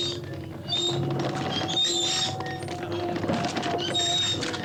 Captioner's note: cart wheels creaking